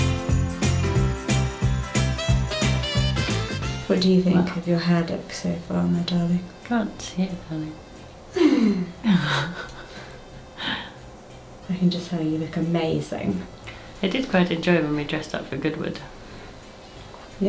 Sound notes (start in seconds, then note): 0.0 cheerful holiday music; 8.4 laughing